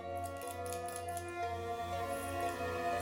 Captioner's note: coins Screeching